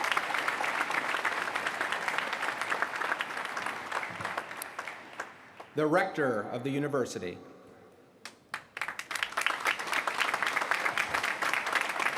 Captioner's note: applause